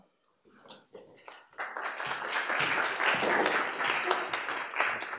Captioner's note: applause